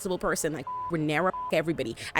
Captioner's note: beep